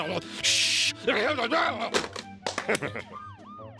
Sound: more angry muttering; claps hands; laughs

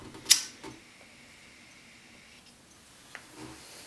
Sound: lighter flicking

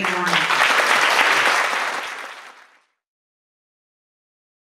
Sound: audience applauds

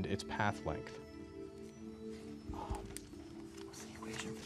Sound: whispering

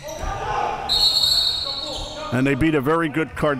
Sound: whistle

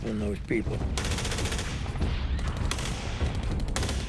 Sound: gunshots

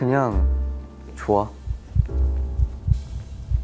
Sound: heartbeat

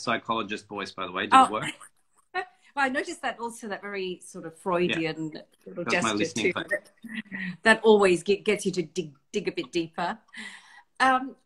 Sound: laughs

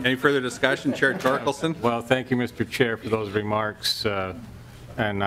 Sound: laughter

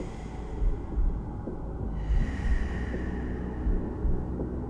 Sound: deep breathing

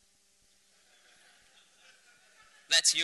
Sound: laughter

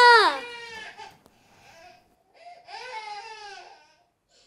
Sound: baby crying

